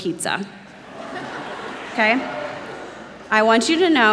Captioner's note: laughter